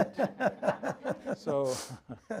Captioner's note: laughs